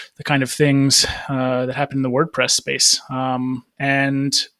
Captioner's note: none